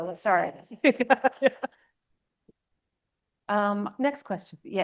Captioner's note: laughs